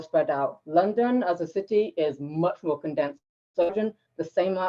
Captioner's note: tape distortion